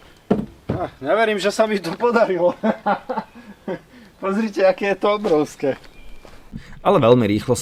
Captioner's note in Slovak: smiech